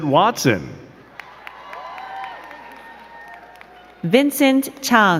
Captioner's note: crowd cheering and clapping